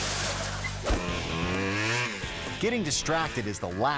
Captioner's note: truck crashing; bike buzzing